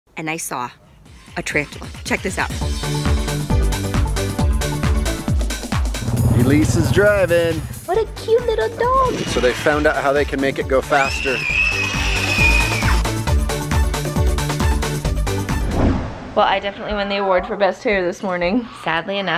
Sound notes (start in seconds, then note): 1.4 upbeat music; 10.9 kids scream; 12.4 upbeat music